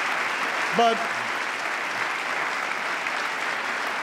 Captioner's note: applause